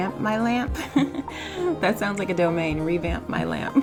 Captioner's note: laughs